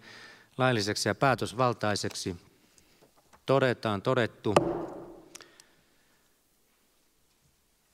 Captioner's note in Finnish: Nuijan kopautus